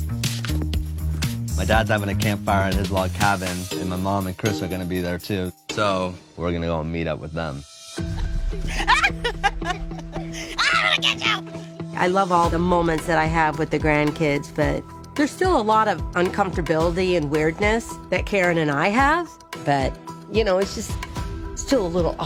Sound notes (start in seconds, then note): 8.6 laughing